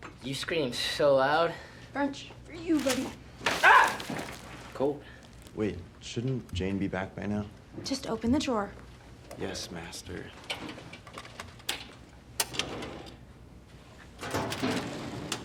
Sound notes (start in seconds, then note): 3.6 french cries